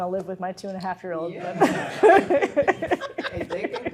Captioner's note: laughs